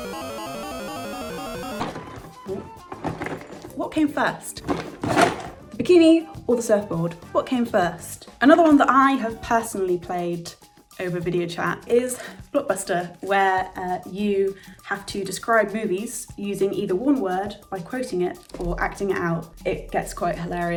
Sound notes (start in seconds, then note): 0.1 robotic computer sounds; 4.5 rattles box; 4.5 pieces rattle in box